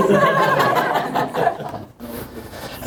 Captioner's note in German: Lachen